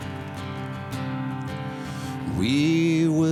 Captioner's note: applause